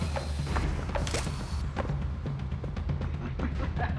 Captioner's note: footsteps; laughs